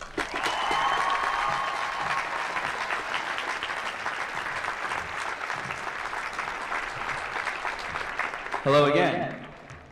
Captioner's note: applause